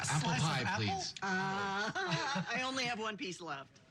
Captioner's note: chuckles